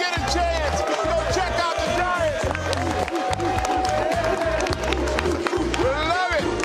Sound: applause

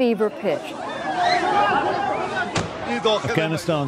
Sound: crowd yelling and screams

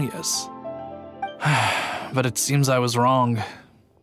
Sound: sigh

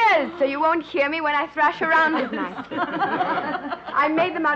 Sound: group laughing

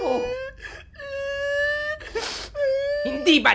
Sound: cries

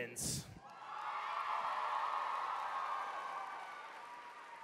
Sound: cheering

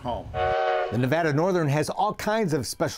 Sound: train whistle blowing

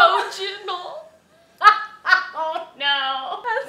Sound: breaks down laughing

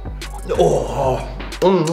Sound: smacks lips

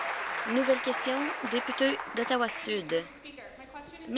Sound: applause

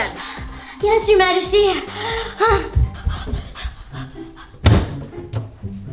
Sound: breathes heavily; doors clack shut

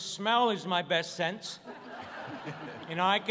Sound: laughter

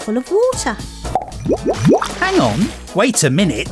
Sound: loud pop and bubbling

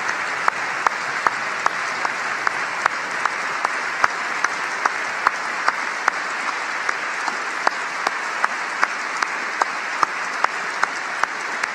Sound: applause

